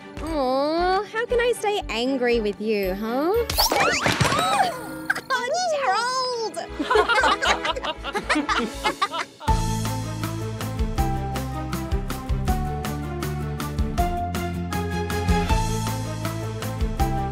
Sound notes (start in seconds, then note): 4.5 scream; 6.7 laughing